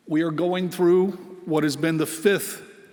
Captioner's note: none